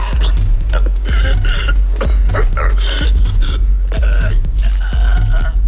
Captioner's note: coughing and wheezing